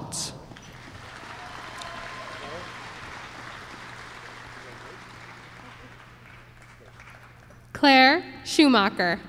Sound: applause

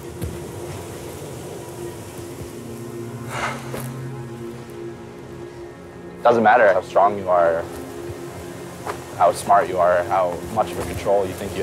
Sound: gasp

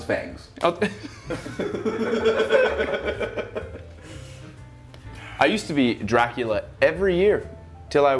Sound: laugh

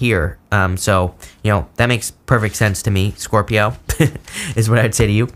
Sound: laughs

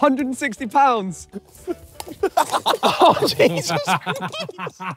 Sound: all laughing

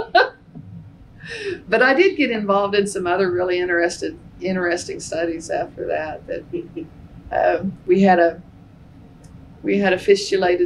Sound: laughter

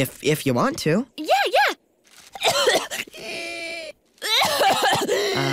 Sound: coughing

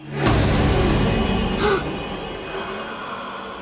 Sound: gasping

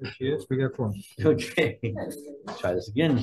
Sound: members speaking softly

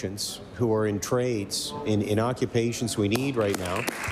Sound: applause

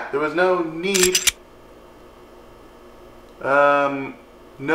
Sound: gun cocking

